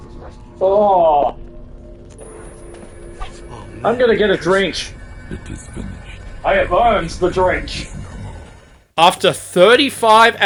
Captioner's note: groans